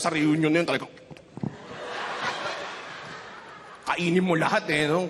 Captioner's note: laughter